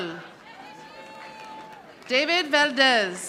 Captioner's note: audience applauding